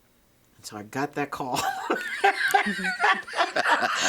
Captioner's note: both laughing